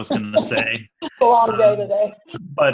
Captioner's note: laughs